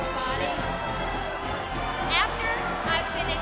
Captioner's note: crowd chatter